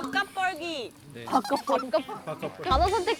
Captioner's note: laughing